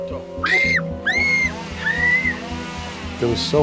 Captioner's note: girl screams